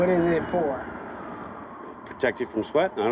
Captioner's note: siren blaring